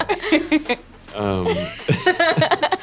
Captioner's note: laughter